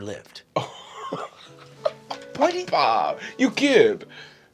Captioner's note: laughing